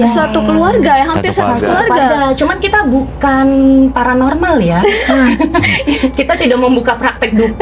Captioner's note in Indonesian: tertawa